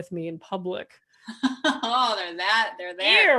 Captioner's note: laughing